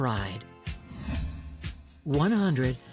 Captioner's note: air whooshing